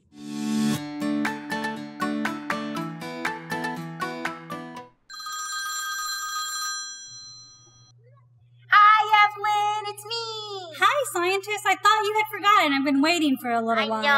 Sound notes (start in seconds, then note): 0.1 transition music; 5.1 phone rings